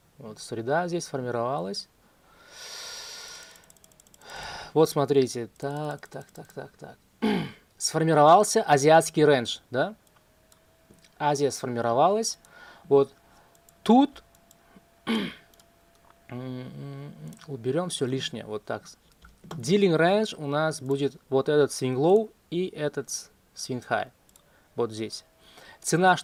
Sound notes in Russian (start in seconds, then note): 7.2 откашливается; 15.0 откашливается; 15.0 кашель